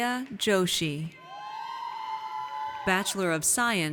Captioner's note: audience cheers